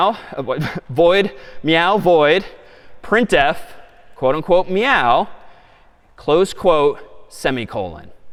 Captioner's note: chuckles